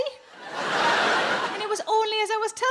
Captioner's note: audience laughs